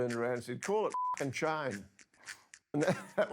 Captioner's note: beeps; softly laughs